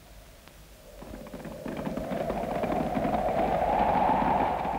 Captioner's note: horses clattering